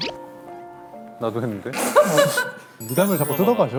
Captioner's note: pft